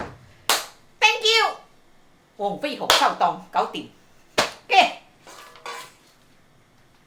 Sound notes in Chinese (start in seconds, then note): 2.4 廣東話